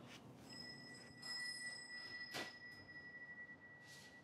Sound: wind chime rings

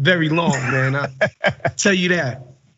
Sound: laugh

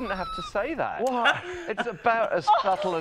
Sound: laughs

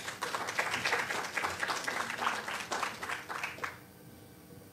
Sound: applause

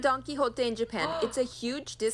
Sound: gasps

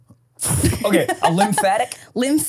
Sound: laughing

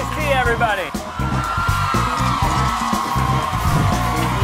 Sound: crowd cheers

